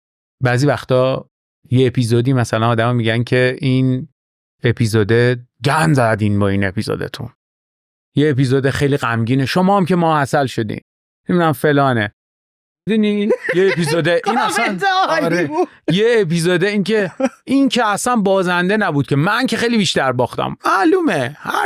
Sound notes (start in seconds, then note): 13.2 laughs